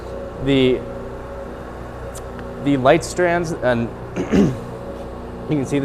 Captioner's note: coughs